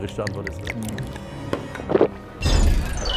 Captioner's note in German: Schluckgeräusche